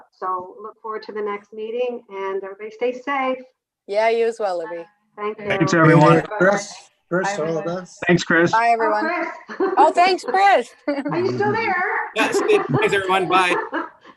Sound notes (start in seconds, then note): 8.8 laughs; 12.1 committee laughs